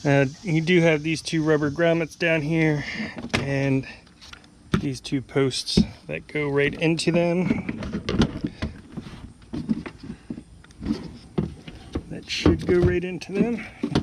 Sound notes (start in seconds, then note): 8.4 plastic thumping